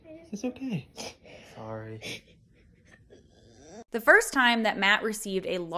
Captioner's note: crying